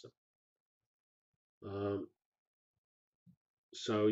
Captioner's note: pause